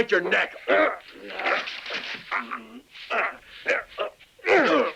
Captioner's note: assailants grunting